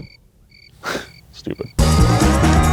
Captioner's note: sighs; bright music